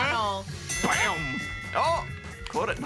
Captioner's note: bell dings